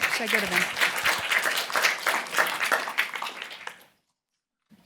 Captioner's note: applause